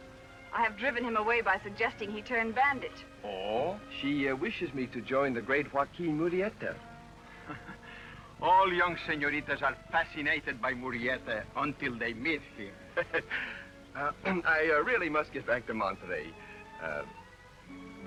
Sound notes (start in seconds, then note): 7.3 chuckles; 12.9 laughs